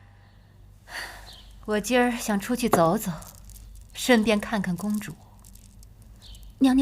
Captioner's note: sigh